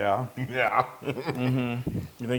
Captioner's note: laugh